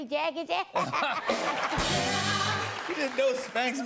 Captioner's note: laughter and applause